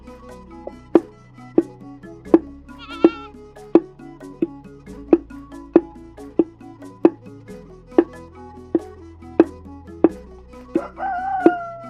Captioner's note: pounding